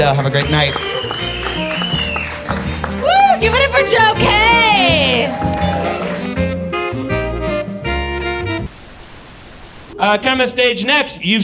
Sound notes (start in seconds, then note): 0.0 audience applauds; 0.0 upbeat music; 5.4 audience applauds; 5.4 upbeat music